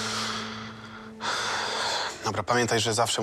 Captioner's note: sighs